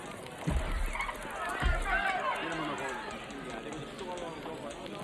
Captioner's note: door squeaks; door knocking; people chattering